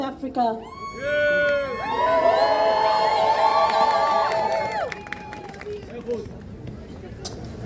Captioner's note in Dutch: Gejuich